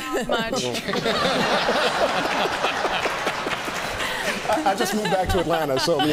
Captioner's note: laughter